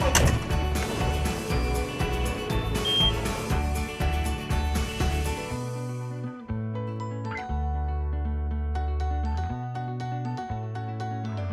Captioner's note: sound of Tractor Starting Up